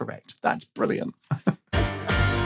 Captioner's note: chuckles